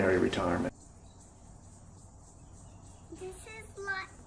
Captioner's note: birds chirping